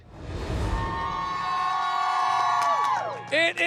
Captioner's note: students cheering